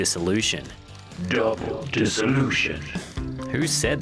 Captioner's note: deep serious voice